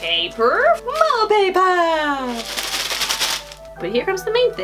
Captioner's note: paper sounds